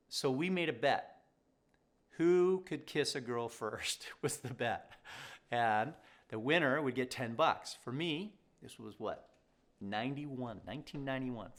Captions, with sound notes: So we made a bet. Who could kiss a girl first was the bet, (chuckles) and the winner would get 10 bucks for me. This was what, 91? 1991.